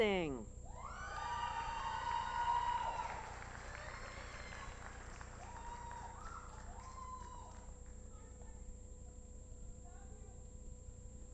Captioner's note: applause